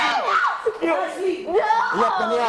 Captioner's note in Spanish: todos gritan